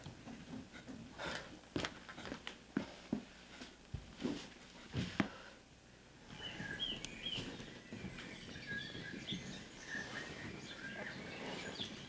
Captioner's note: birdsong